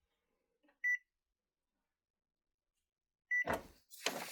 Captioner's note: printer beeps